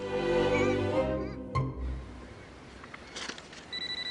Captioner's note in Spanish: Sollozos